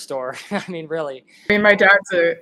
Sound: laughs

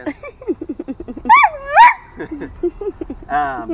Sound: dog howling

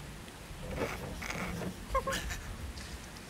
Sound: childish giggling

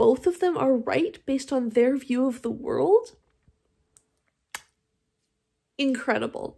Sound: chef’s kiss

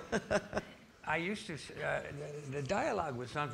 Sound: laughing

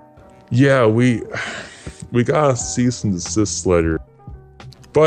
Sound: sigh

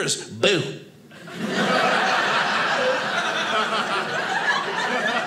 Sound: audience laughing

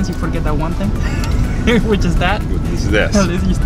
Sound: laughing

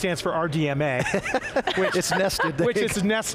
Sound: laughs

